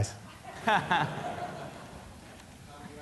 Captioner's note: laughs